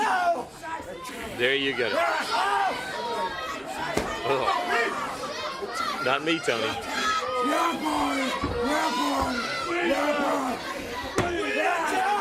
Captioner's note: crowd chatter